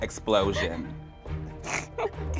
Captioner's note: laughs